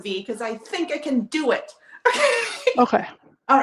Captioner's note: laughs